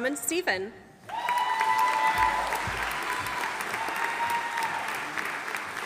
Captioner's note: audience applauding